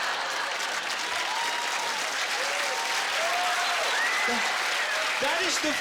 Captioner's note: laughter; cheers and applause